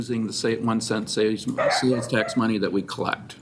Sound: dog barking drains dialogue

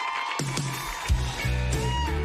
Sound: cheers and applause

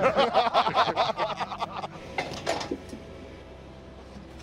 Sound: laughter; clatter

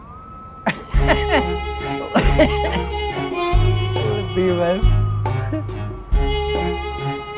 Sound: laughing

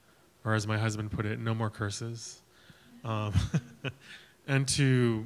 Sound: laughs

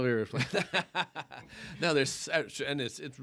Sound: laughter

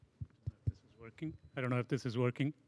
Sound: tapping on mic

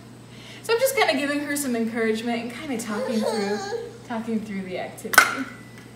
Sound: whines

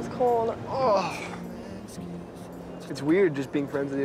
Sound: Stephen grunting

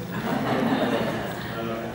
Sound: laughter

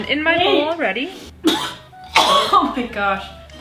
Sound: coughing

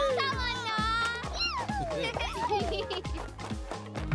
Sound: cheering; giggling

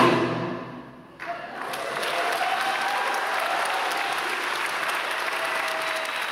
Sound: people cheering, clapping

